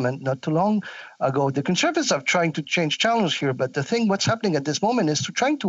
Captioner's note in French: voix de l'interprète